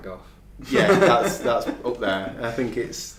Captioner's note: laughing